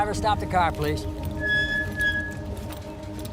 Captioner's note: brakes squeal